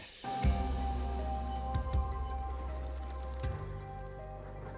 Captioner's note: birds fluttering